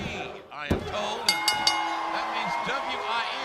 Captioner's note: bell ringing